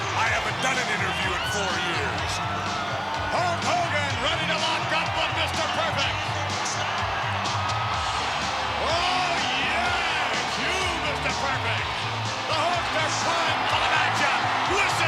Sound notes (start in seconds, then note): 6.3 crowd cheering continues; 6.3 lively music continues